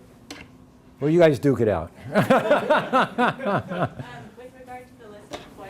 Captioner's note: laughs